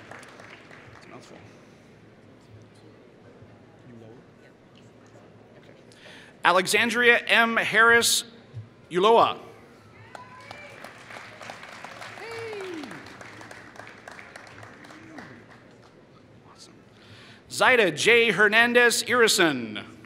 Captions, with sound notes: Alexandria Harris-Uloah [Applause] Zida J. Hernandez Erison